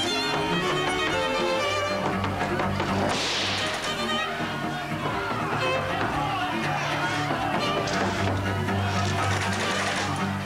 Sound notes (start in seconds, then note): 3.0 gunshot; 8.6 jiggles doorknob